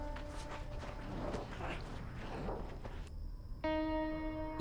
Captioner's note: growls